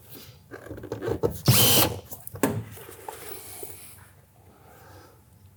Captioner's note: tool whirring